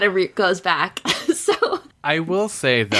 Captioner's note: laughs